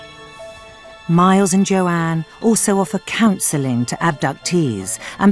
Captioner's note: voiceover